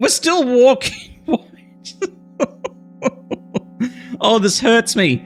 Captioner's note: chuckles